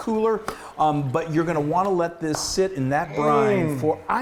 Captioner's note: claps hands; hands clap